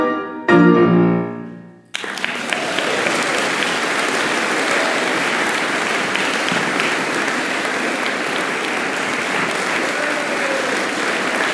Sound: applause

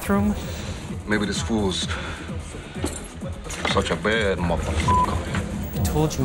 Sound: beeps

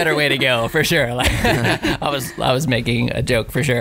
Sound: laughing

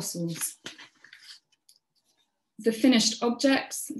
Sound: paper shuffling

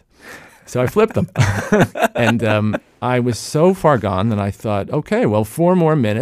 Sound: laughs

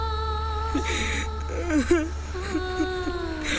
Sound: sobbing

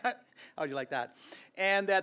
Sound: laughs

